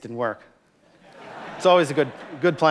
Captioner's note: laughter